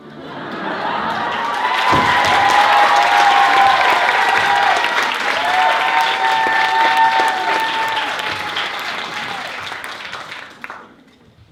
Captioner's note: applause